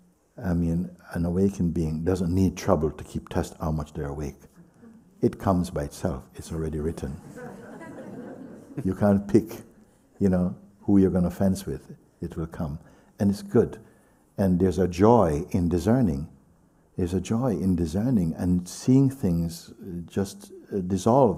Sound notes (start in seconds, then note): 7.2 laughter